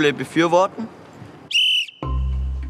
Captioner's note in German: Pfiff